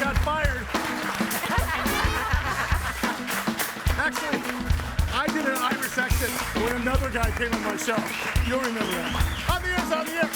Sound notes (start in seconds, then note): 2.3 guests laughing